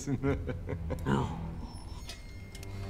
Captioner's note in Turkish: Vasilius gülme sesi